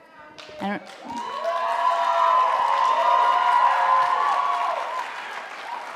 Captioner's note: audience cheering and applauding